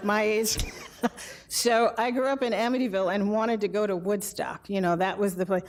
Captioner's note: laughs